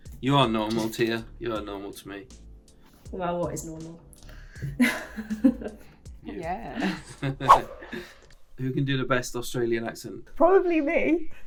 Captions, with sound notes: -You are normal, Tia. You are normal to me. -Well, what is normal? [chuckles] [laughter] -Who can do the best Australian accent? -Probably me.